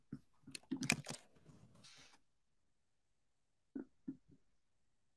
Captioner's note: mouse clicking continues